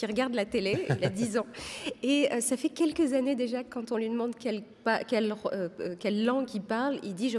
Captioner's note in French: rires